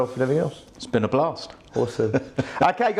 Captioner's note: laughs